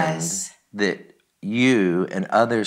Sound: sobs

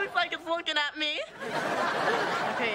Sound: audience laughing

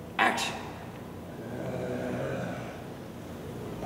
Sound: moaning

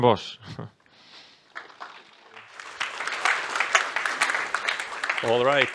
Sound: applause

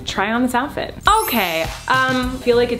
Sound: sparkle sound

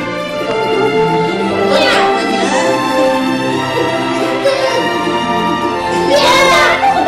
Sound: mimics horse neighing; mimics horse neighing

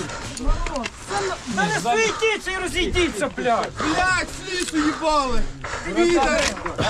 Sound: erf

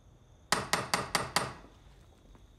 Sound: knocks

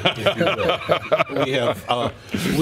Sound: laughter

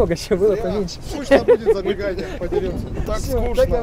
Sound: laughing

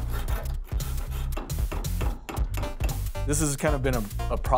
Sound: hammering

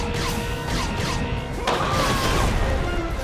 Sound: zapping; screaming

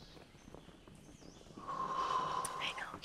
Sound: sighs

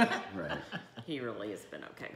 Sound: laughing

